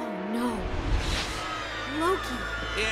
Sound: people screaming

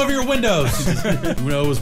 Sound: laughter

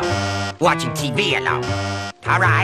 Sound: bzzz

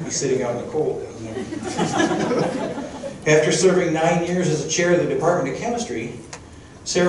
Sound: crowd chuckling

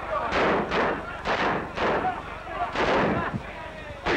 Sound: cheering; gunshots

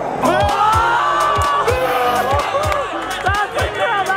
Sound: group cheers

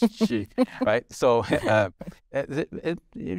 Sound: chuckling

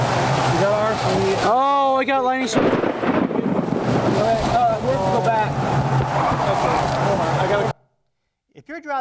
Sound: thunder cracks

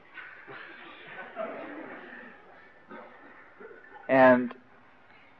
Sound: devotees laugh

